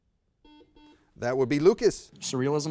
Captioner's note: buzzer sounds